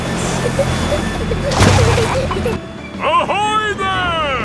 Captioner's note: peppa and george giggling